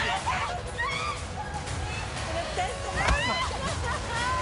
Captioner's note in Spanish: Gritos de Valeria